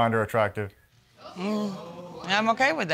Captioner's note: audience exclaims